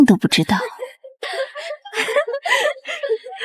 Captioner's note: cackles